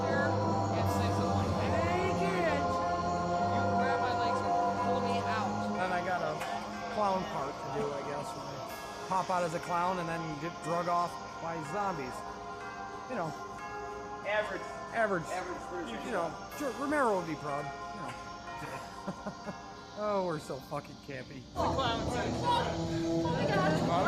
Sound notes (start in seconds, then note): 18.5 chuckles